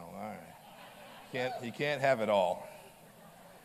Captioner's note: laughter